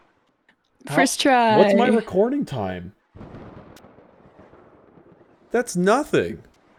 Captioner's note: laughs